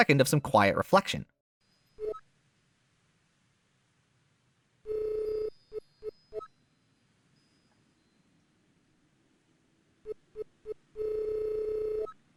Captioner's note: in-game sound of a soft breeze and gentle windchimes